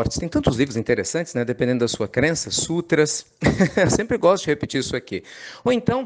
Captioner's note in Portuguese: Risos